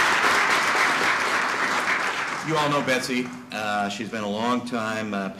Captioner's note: applause